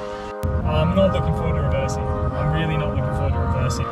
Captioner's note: car engine noise